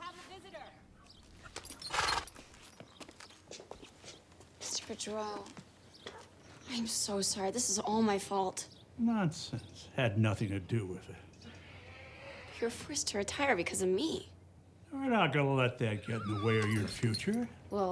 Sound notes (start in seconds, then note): 0.9 horse shudders